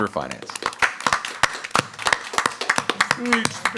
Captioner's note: audience applauds